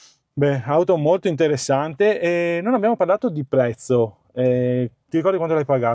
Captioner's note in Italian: sbuffare